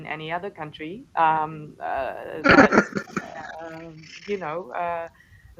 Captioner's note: laughter